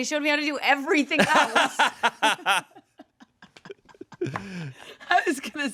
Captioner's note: everyone laughs